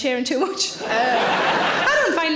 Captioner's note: audience laughing